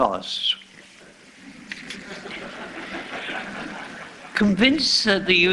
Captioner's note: laughter